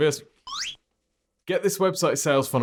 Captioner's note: video beeps